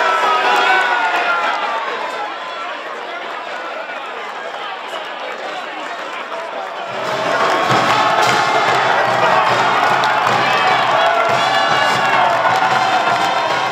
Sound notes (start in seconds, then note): 6.9 marching band playing; 7.9 crowd cheering